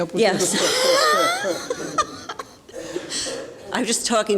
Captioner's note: laughs